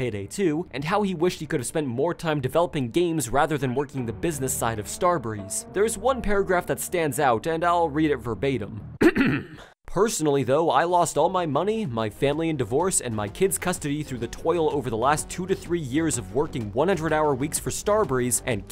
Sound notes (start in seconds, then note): 9.0 clears throat